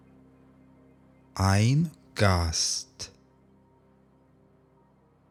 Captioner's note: german